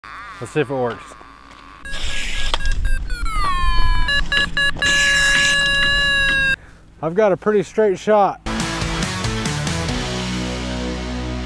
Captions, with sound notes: - Let's see if it worked. (machine beeps) I've got a pretty straight shot. (upbeat music)